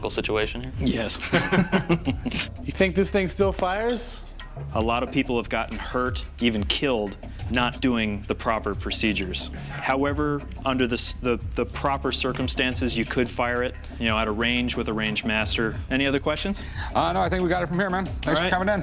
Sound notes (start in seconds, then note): 1.1 laughter